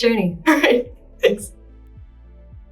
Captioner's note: chuckles